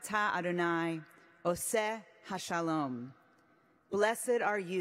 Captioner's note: speaking hebrew